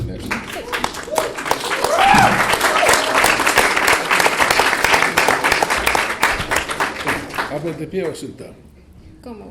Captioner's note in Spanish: Aplausos